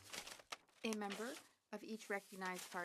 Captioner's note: speaking French